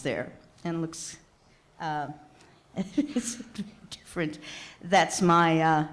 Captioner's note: laughing